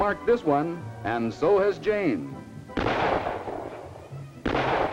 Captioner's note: gunshots